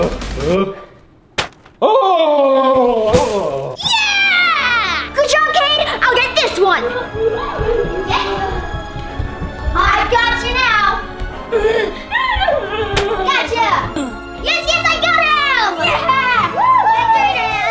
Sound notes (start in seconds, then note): 1.4 sword taps; 7.1 epic music